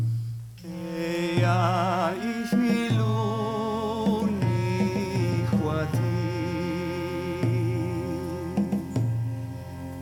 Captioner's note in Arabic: بالعربية